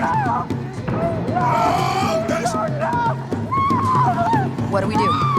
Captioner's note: screaming